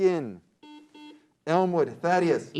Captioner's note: beep